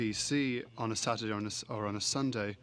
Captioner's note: speaking french